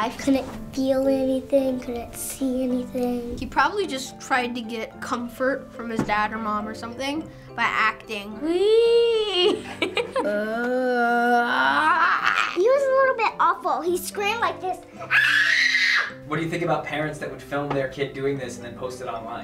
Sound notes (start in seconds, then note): 9.2 laughing